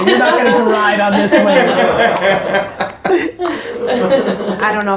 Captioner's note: laughter